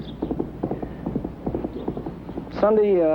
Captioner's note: hooves thundering